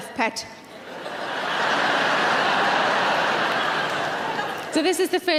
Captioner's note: audience laughing